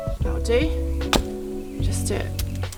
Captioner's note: chop